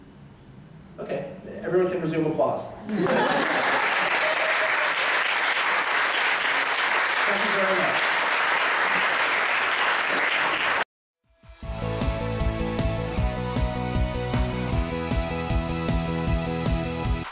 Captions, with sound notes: Everyone can resume applause. (laughter and applause) Thank you very much. (high energy music)